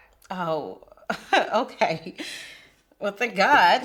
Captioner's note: laughs